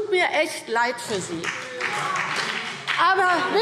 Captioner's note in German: Vereinzelter Beifall BÜNDNIS 90/DIE GRÜNEN